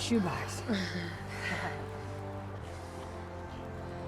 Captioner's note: chuckles